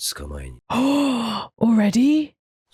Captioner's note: gasp